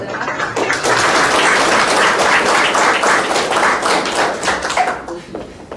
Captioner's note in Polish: oklaski